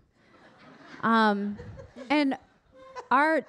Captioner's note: audience laughing